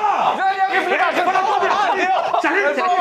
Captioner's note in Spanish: grita; gritan